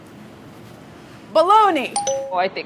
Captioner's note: dinging